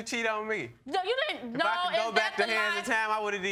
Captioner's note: stutters